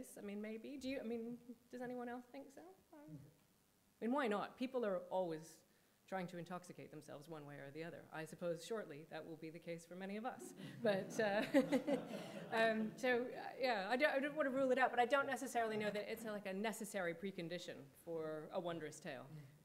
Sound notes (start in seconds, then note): 10.4 chuckling; 10.5 audience laughing